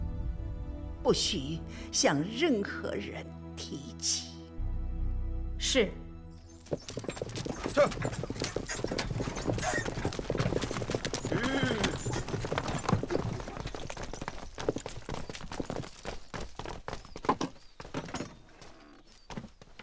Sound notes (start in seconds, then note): 7.0 horse galloping; 12.2 horse stopping